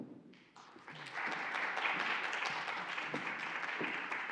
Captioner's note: applauding